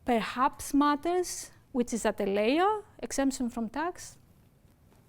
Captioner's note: speaking greek